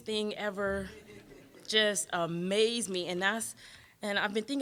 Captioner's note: audience laughing